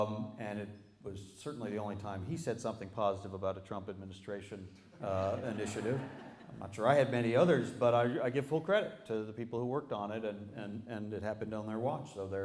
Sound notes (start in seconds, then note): 5.0 laughter